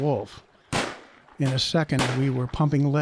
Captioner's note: gunshots